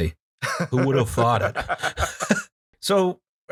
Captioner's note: laughter